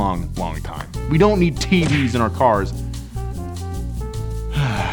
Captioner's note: sighs